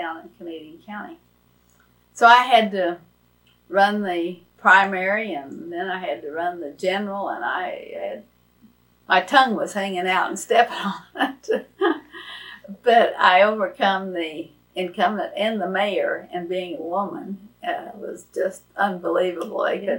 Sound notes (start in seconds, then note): 10.5 laughs